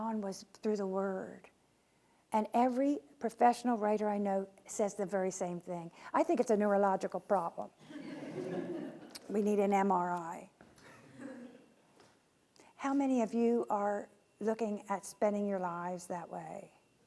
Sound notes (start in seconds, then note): 7.9 laughing